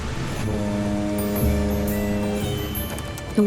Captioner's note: boat horn; typing